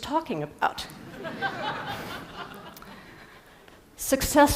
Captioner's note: Risadas